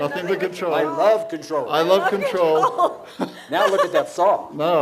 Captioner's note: laughs